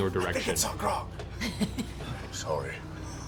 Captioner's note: whispering